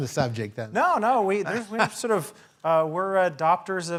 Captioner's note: laugh